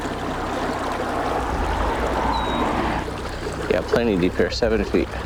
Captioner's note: traffic humming